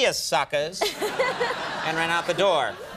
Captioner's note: audience laughs